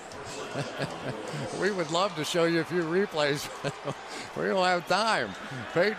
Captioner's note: laughs